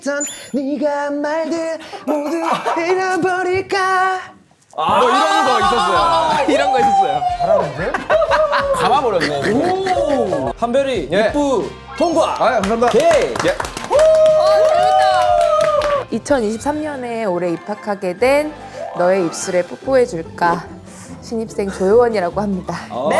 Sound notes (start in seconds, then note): 5.1 hah